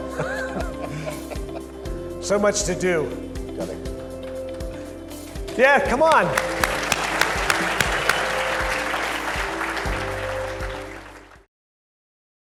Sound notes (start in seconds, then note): 0.2 all laugh; 5.6 upbeat music; 6.0 audience claps